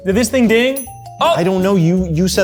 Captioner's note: oven dings